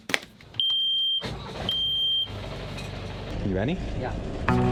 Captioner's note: boat beeps